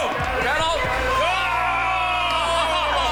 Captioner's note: people chattering distantly; people shouting distantly